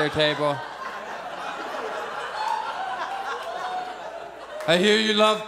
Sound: audience laughs

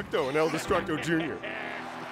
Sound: laughing

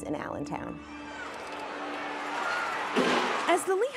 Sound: cheering

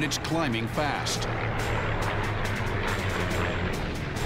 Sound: engine roaring

